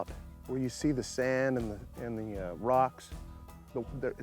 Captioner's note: none